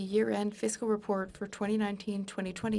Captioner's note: speaking in French